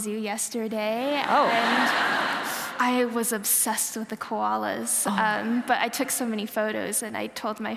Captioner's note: laughter